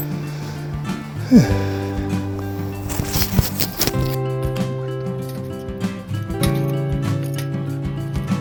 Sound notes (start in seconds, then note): 1.2 sigh